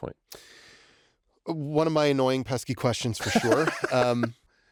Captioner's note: laughter